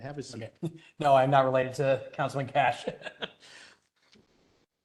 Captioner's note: laugh